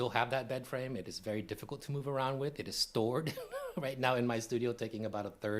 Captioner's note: laughs